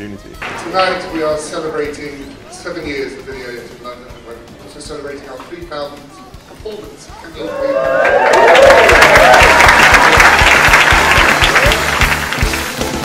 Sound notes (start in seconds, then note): 7.3 cheers and applause